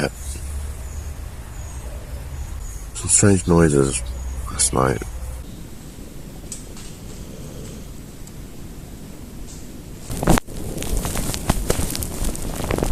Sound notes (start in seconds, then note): 5.0 weird deer noises